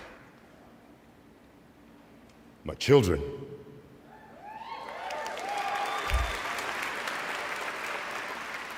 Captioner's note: cheers and applause